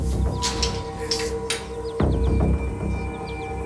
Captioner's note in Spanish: Sonidos al manipular el candado